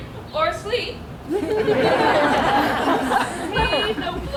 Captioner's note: audience laughs